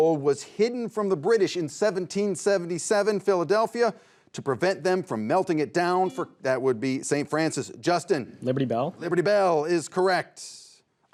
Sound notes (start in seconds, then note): 6.3 buzzer beeps